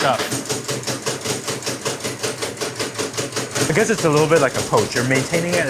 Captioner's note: machine whirring